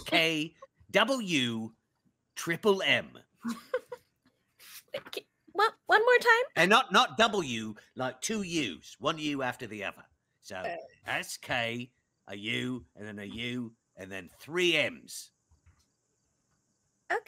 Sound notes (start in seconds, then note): 3.5 chuckles